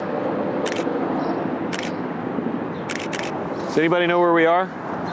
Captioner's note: camera shuttering